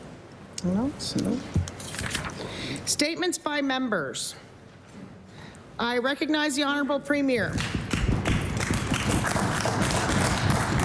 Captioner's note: some Applause